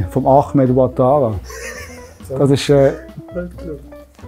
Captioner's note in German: Streller lacht